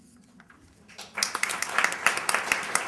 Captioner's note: applause